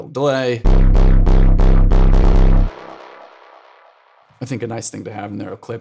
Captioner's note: electronic tones sounding